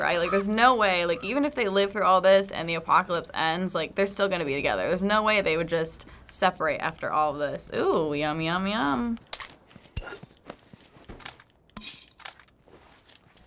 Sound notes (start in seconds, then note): 9.2 objects rattle